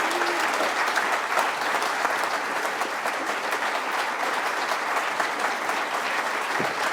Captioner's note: applause